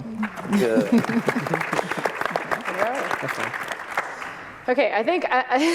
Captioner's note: applause